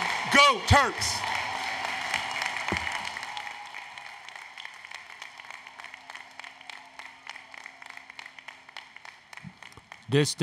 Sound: applause, Cheering

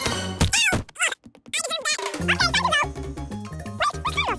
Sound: speaking fast forward

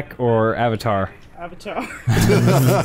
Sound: laughs; genuine laughter

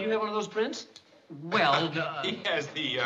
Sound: laughing

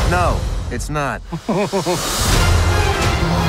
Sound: laughing

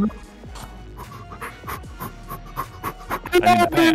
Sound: action running effects

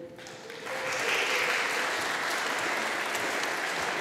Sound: audience applauding

